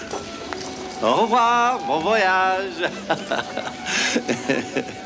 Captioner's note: chuckles